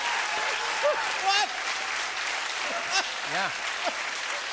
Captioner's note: cheers and applause; laughing